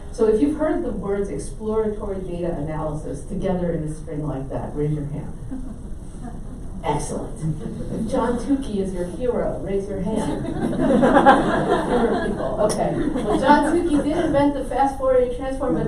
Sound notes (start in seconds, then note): 7.5 laughing; 10.1 audience laughs